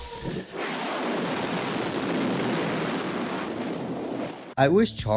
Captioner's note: rocket noises